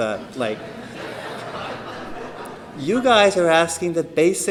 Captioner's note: laughter